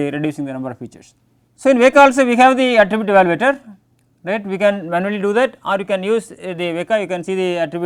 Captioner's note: click